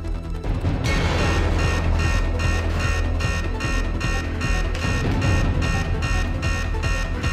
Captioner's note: suspenseful music continues; alarm blaring